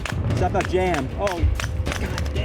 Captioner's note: gun popping